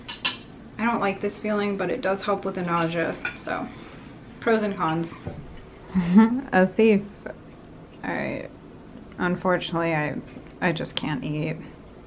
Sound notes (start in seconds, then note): 5.9 laughs